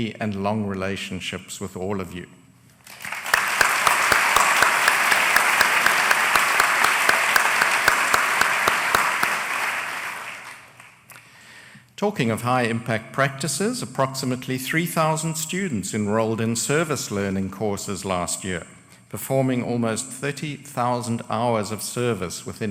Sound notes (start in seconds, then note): 2.8 applause